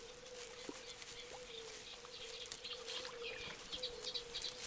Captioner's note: birds singing